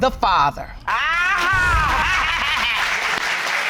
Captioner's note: laughing